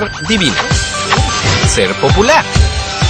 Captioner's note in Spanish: besos